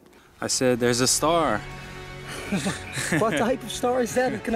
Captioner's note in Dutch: lacht